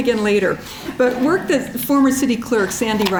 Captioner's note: audience chuckling